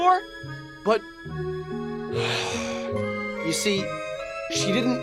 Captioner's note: sigh